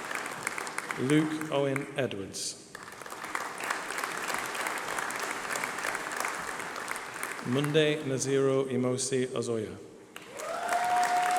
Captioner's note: applause